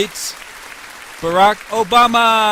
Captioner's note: applause